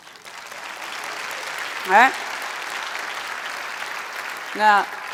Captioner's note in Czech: Potlesk